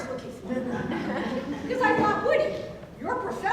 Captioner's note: audience laughing